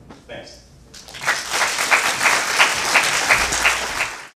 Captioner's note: audience applauding